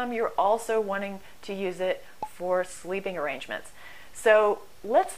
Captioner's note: pop